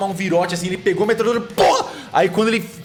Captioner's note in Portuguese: pow